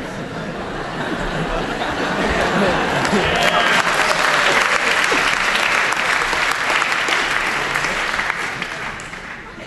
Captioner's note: background applause